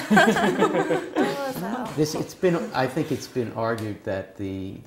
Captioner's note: laugh